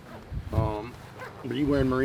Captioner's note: zipping